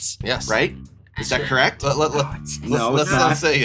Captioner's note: whispers